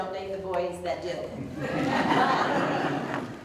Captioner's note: audience Laughter